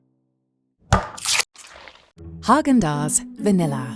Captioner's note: tub thudding